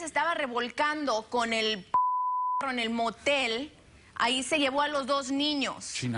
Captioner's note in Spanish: Bip